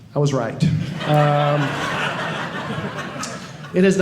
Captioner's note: audience laughing